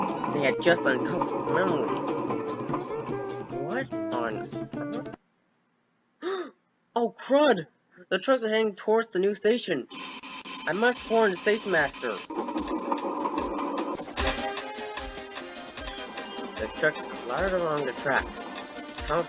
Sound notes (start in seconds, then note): 6.2 gasp